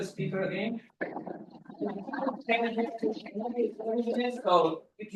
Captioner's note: people chattering